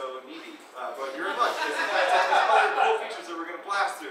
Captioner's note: audience laughing